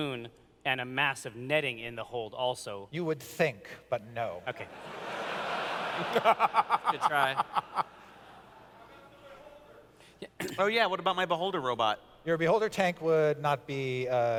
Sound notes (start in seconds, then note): 4.6 laughter